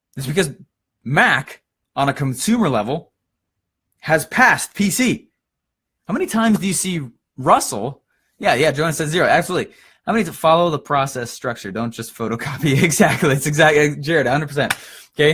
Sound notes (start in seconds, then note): 12.5 laughs; 14.6 claps